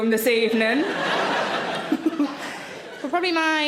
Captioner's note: audience laughing